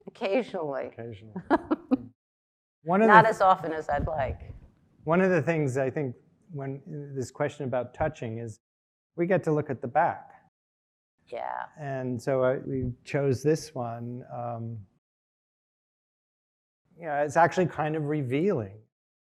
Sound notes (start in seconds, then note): 1.4 laughing